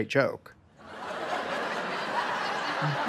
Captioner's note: crowd laughs